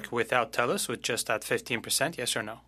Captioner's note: speaking French